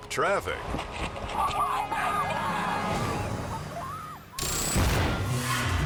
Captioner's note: kids screaming; countdown squeals